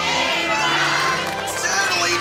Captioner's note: crowd cheering